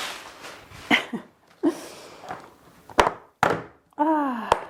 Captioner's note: chuckles